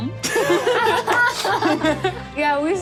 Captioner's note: laughing